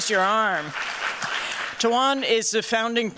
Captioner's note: applause